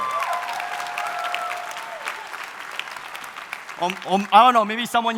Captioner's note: audience cheering